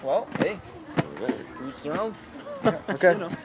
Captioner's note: laughing